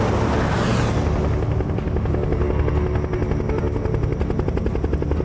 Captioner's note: helicopter blades whirring